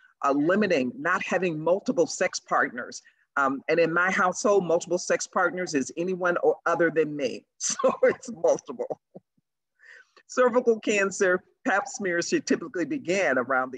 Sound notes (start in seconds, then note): 7.2 laughs